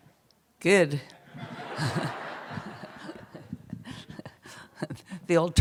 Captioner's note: laughter